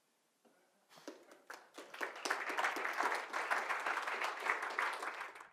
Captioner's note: audience claps